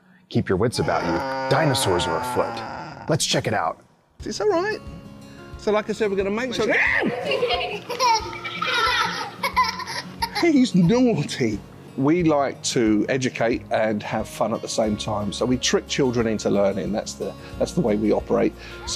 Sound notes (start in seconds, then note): 7.1 lecturer screams; 8.1 children laughs